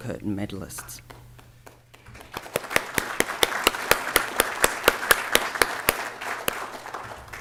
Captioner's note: applause